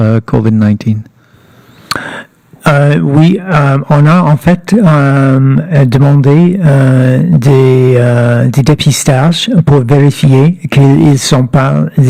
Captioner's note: speaking French